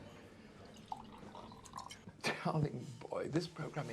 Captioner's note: liquid sloshing